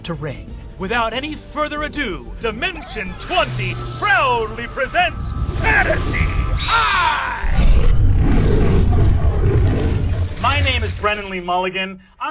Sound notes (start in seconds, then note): 6.5 Owlbear hoots and growls